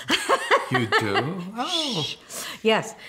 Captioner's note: laughs